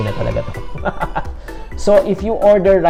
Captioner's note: laughter